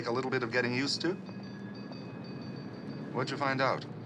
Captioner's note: tram bell ringing